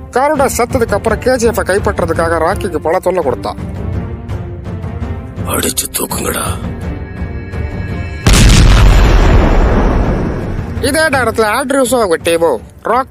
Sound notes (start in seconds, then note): 8.2 bomb blasting